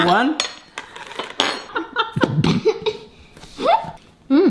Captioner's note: laughing